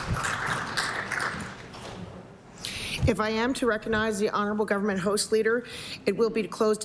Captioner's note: applause